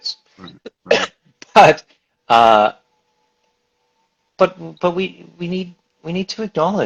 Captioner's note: stammers